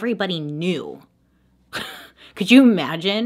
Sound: slight laugh

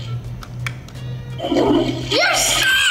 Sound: toilet gurgles

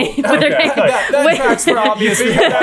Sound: laughing

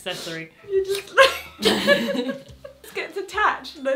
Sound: both laugh

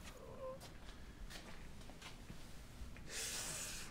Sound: groaning

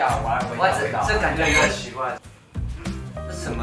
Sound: sniff

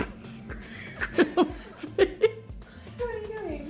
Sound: laughing

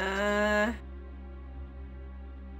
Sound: groans

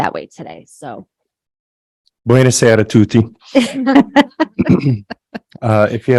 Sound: laughs

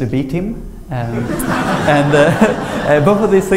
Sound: laughter

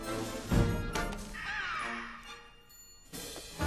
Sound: distant scream

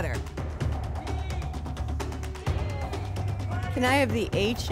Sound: audience shouting letters

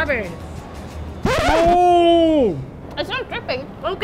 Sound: record scratch

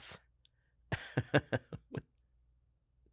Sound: chuckles

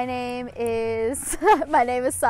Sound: laughs

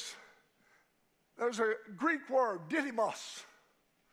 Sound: speaking in a foreign language

